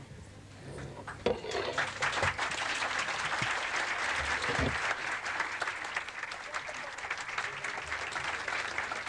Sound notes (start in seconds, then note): 1.7 clapping